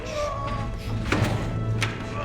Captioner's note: grunting